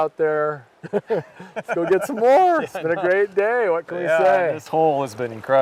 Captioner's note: laughing